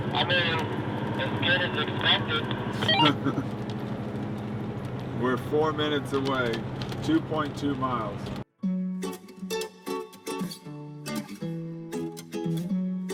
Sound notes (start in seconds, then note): 2.8 laughs; 8.5 upbeat guitar